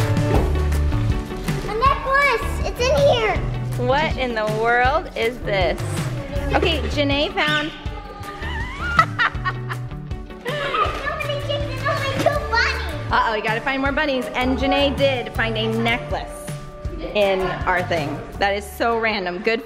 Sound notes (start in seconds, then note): 7.9 laughing